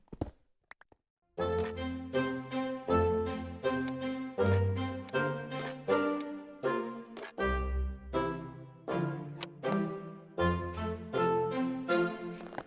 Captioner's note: more Inventory Sorting Sounds